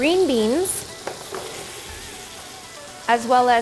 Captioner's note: food sizzling